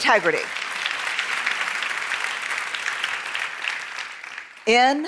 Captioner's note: applause